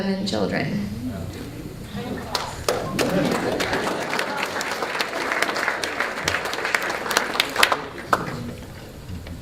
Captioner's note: applause